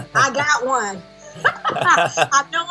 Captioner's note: laughter